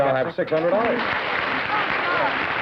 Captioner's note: applause